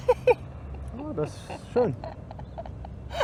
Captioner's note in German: gelächter